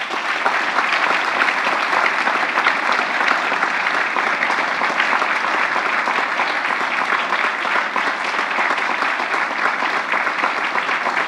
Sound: applause

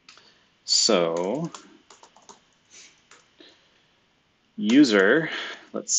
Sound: computer keyboard clicking

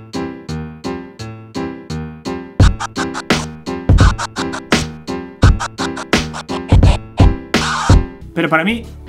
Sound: scratching without swing

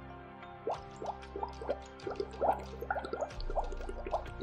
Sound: water burbling

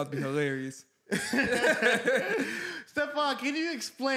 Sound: laughs

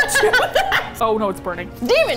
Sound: both laugh

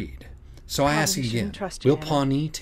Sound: 'Jeanne' V.O

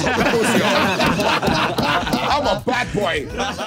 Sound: everyone laughing

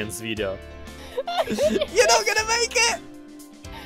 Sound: hysterical laughter

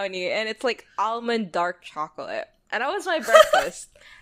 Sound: laughs

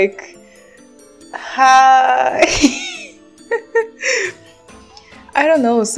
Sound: laugh

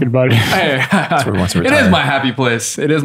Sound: laughter

